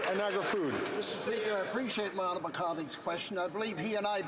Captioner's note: some Applause